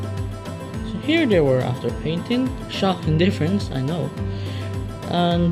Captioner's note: sarcasmo